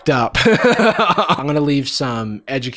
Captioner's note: laughs